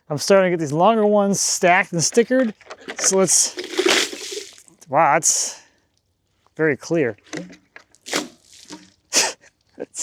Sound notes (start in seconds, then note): 2.8 water splashing; 8.0 water splashing